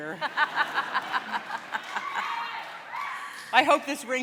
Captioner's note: laughter